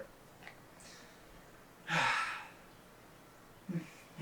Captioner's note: sighs